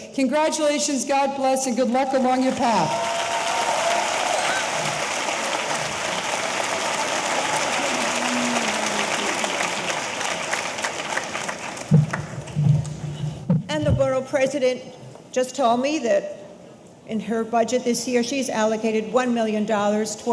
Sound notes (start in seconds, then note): 2.2 audience applauding; 2.4 audience cheering